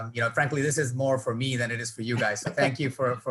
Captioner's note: laughing